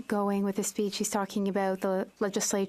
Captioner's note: speaking French